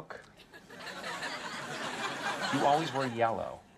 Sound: audience laughs

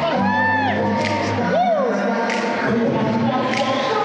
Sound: voiceover

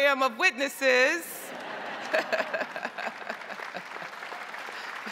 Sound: crowd laughing

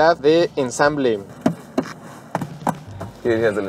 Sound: taps on the dashboard

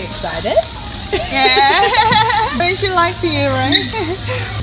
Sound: laugh

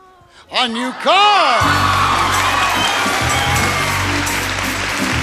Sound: audience cheering

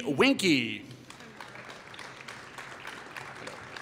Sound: applause

